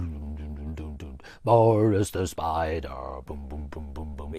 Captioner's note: hums bass riff